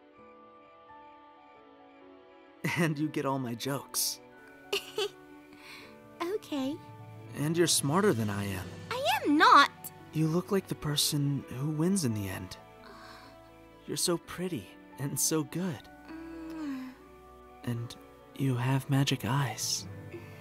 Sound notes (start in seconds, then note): 4.7 giggles; 12.5 small sigh; 16.0 mwah